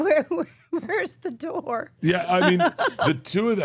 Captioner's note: laughs